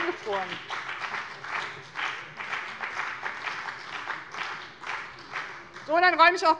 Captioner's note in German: Beifall bei dem BÜNDNIS 90/DIE GRÜNEN und der CDU